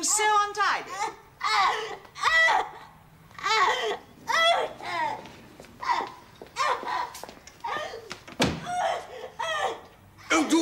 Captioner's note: Sibyl keeps wailing